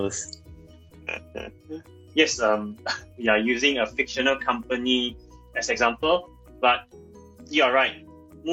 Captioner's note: laughs